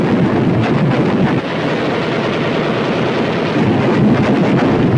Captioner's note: guns firing